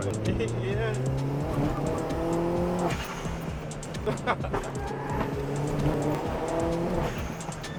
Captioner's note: engine revving